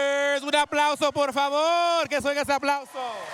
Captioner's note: speaking spanish; cheers, applause